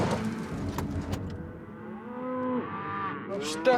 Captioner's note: tires spinning; door opens